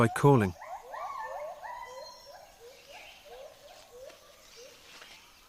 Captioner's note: howling